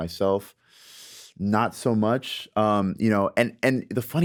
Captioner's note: inhales deeply